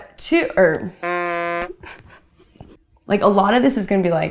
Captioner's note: laughs